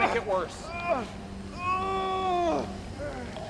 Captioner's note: moaning